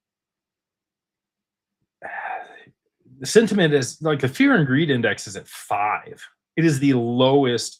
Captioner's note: sighs